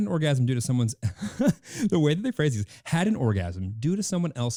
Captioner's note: laughing